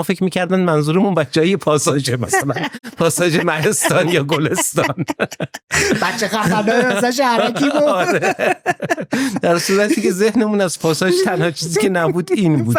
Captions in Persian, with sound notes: فکر می‌کردن منظورمون بچه‌های یه پاساژه مثلاً پاساژ مهستان یا گلستان. (خنده) بچه‌خفن‌های مثلاً شهرک... (خنده) - آره. درصورتی‌که ذهنمون از پاساژ تنها چیزی که نبود این بود.